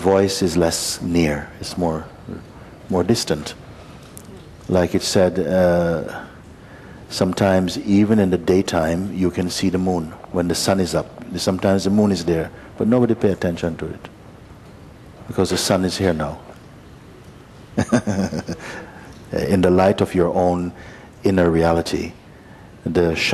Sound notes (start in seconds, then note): 17.7 Mooji laughs